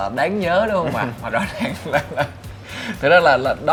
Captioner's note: laugh